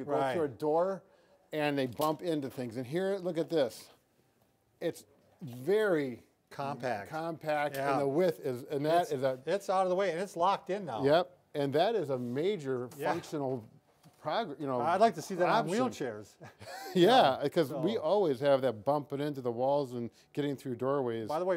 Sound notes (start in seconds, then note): 16.4 laughs